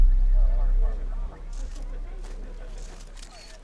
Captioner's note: camera lenses snapping